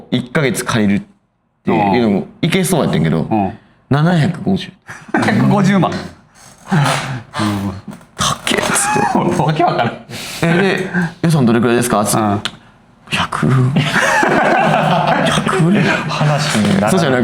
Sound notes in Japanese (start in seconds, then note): 5.8 ため息; 9.9 笑い; 13.5 笑い